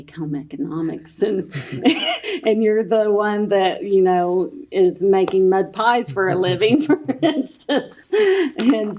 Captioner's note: laughter